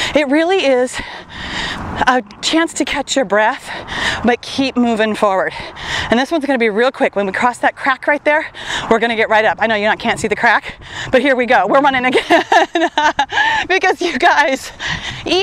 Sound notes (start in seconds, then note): 12.0 laughs